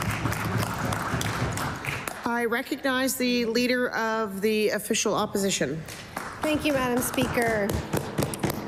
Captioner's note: applause